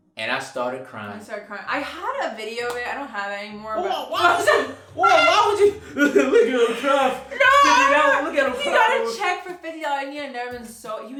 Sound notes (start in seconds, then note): 3.9 laughing